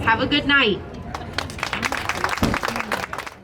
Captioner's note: people applauding